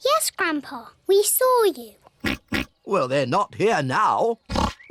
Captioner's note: oinks